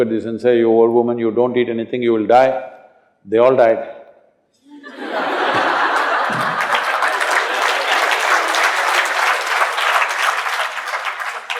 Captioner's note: laughter/Applause